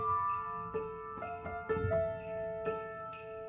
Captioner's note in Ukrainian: дзвін